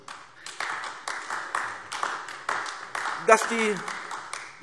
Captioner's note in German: Beifall AfD